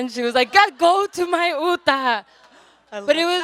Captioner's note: audience laughs